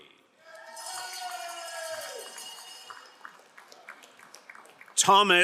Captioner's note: crowd cheering and applauding